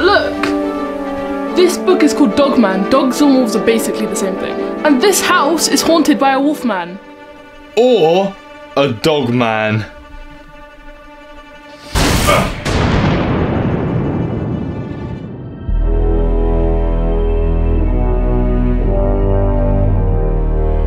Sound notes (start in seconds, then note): 9.5 suspenseful orchestral music; 12.2 Fred grunts; 12.2 dramatic music; 15.8 ominous orchestral music